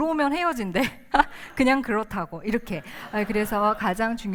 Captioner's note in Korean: 웃음